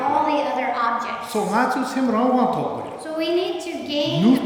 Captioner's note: speaking tibetan